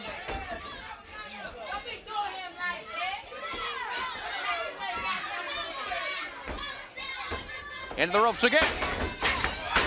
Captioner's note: crowd chatter